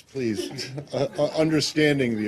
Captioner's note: laughter